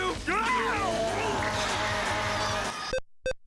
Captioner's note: bodysnatchers screaming